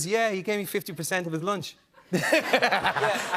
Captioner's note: laughter